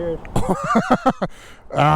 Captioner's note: laughing